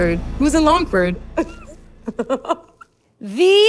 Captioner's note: laughs